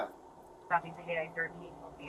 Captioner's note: radio chatter